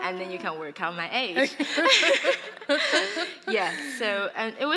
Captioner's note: laughter